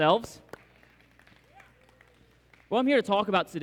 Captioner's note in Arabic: تصفيق